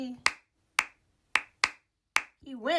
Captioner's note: claps rhythmically